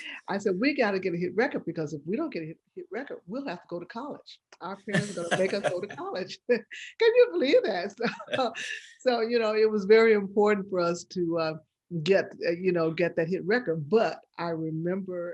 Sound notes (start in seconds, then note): 4.9 laughing